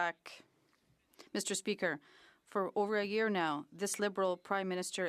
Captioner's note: speaking French